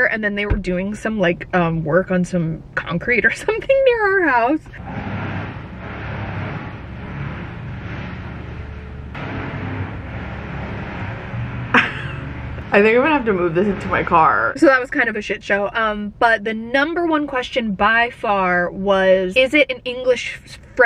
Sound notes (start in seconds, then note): 4.8 machine drilling